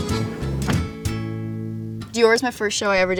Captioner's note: door thuds